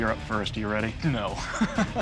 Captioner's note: laughs